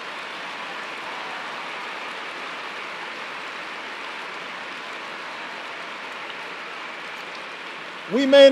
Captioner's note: applause